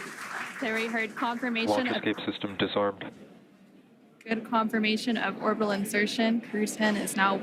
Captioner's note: applause